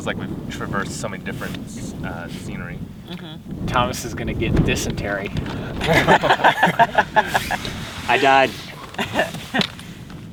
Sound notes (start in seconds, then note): 5.6 all laugh; 8.9 laughs